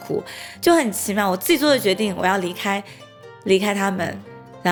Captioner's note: in Mandarin